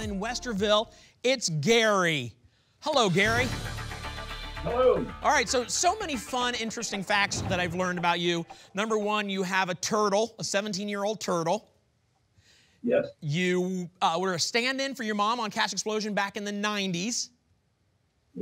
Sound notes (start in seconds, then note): none